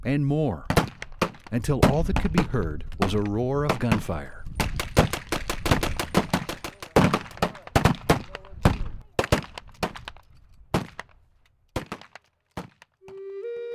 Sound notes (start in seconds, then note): 4.5 gunfire